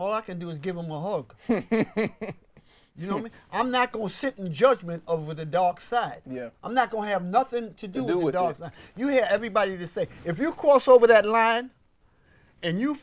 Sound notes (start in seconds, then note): 1.4 laughs